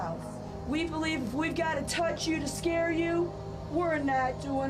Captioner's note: none